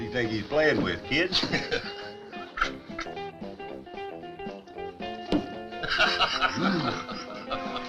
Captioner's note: lively music; both chuckling